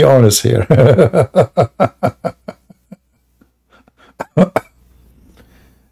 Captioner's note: Ketawa